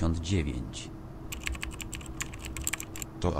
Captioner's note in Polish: intensywne stukanie w klawiaturę